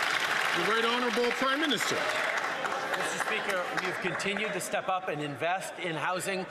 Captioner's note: some Applause